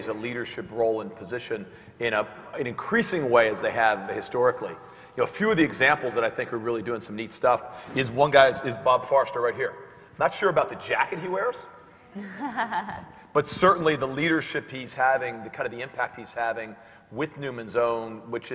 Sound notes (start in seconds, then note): 12.2 laugh